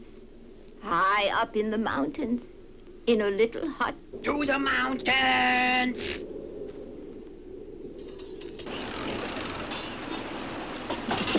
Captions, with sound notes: in a little hut. - To the mountains! (wind whistles) (bike rattles) (water babbles) (bike clatters)